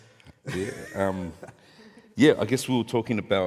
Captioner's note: chuckles